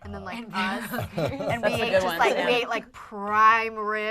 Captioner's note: group agreeing